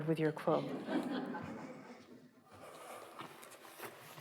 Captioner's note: laughter